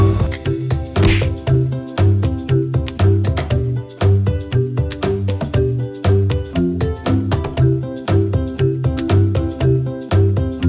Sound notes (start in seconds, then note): 0.9 thwacking; 4.5 upbeat music